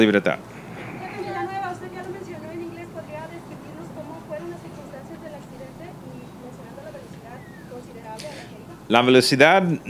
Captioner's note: reporter in Spanish